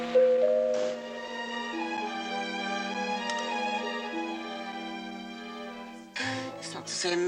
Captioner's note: rings doorbell